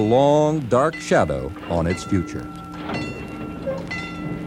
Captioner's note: bell ringing; train chugging